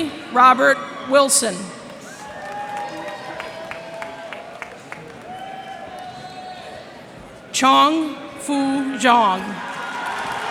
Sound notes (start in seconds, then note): 1.7 cheers and applause